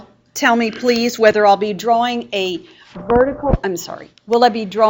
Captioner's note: static